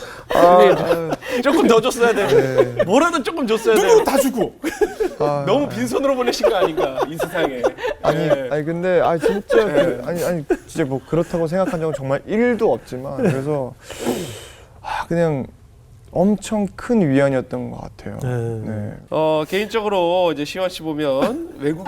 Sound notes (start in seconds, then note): 5.1 laughing